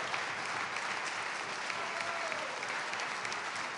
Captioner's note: cheers and applause